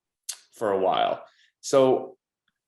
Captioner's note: clicks tongue